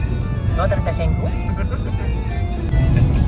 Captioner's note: laugh